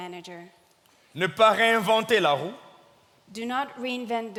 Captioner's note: speaking in French